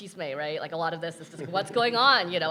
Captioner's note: people chuckling